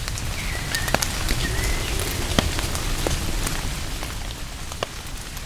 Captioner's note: dinosaur roaring; rain